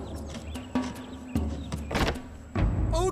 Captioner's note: door opens